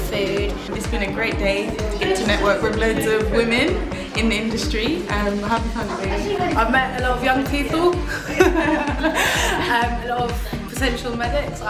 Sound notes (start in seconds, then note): 8.0 both laugh